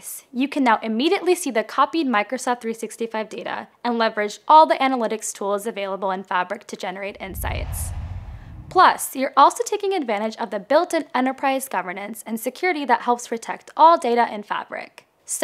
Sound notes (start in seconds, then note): 7.1 logo swooshes